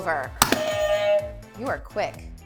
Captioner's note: buzzer